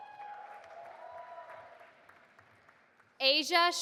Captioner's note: audience applauding